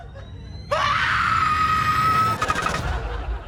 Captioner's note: screams; ominous music